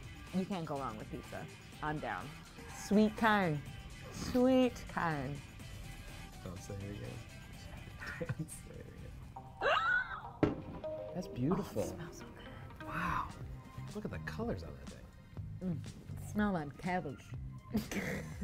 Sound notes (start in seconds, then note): 7.6 whispers; 11.3 gasps